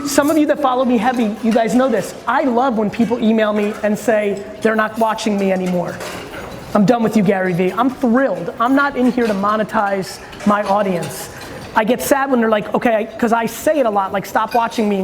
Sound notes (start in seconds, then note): none